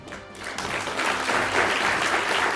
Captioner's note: applause